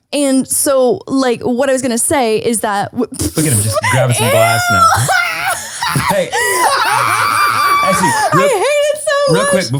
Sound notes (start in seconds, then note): 3.7 laughs